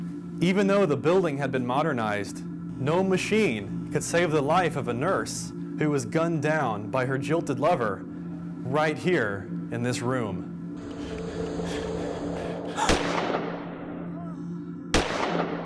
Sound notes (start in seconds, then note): 10.8 heavy breathing; 12.6 gun fires